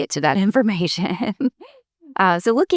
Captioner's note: chuckles